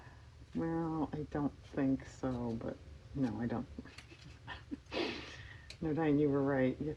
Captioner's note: laughs